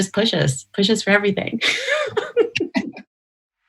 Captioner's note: laughter